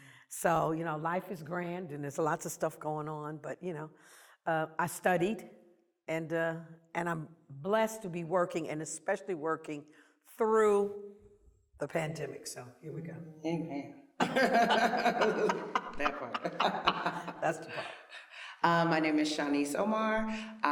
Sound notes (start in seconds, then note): 14.2 laughter